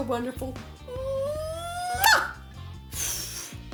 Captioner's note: blows kiss